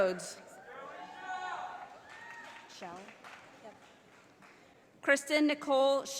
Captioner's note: audience applauding